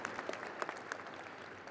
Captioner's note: audience applauding and cheering